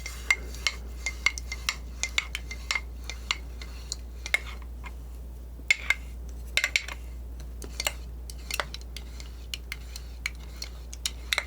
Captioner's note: scratching